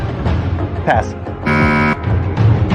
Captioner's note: buzzer sounds